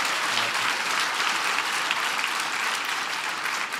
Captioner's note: applause